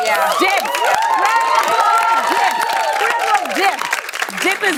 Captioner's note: cheers and applause